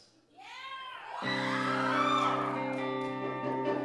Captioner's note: audience cheering